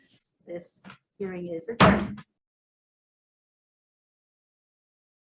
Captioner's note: gavel banging